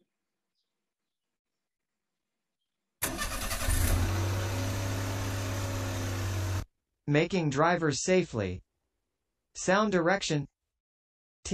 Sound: car engine starting

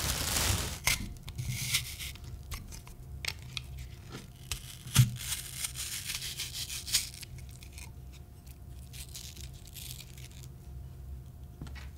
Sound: sounds of cutting an apple

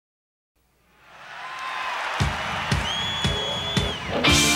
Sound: crowd cheering and applauding

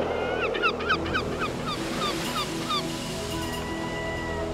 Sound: seagulls cawing; gentle music

